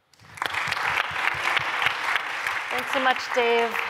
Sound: applause

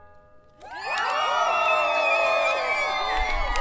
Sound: all cheering

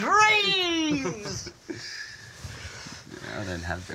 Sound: chuckles

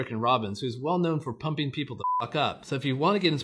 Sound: beep

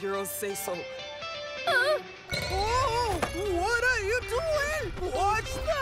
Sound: gasps

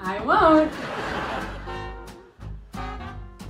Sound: studio laughter

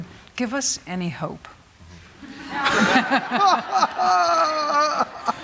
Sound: audience laughing

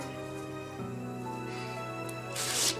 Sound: sighs

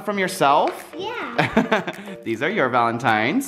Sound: man laughs

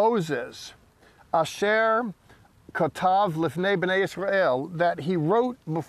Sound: speaking in Hebrew

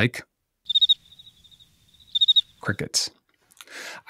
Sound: crickets chirping

